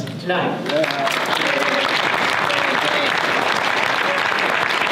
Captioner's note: audience applause